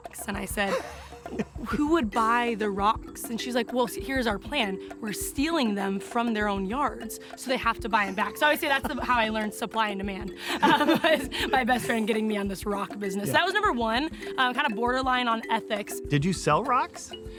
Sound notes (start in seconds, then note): 10.4 laughing